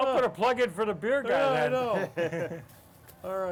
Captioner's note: laugh